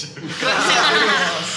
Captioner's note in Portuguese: Risadas